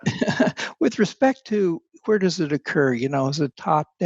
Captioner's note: chuckles